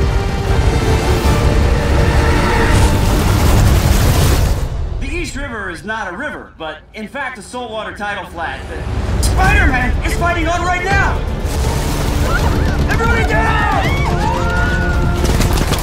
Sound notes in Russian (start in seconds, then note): 12.2 Крик; 12.3 Крики толпы